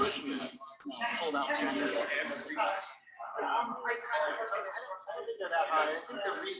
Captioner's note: people chattering indistinctly